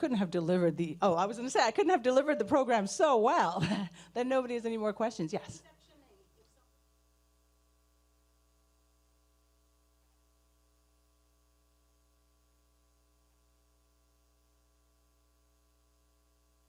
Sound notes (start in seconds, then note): 9.0 speaking away from mic